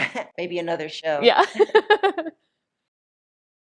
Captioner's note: laughing